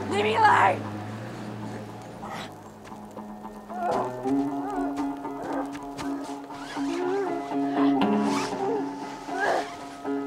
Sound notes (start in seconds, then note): 3.9 Eddy grunting